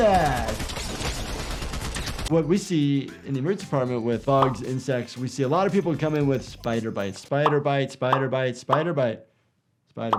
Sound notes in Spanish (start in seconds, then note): 0.0 disparos de armas